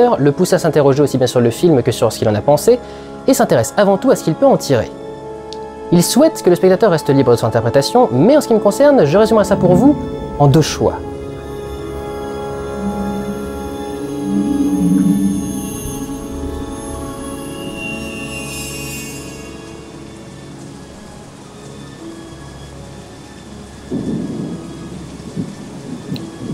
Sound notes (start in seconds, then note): 11.1 sound of rain and light thunder + intriguing music